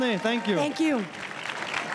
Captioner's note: crowd cheering and applauding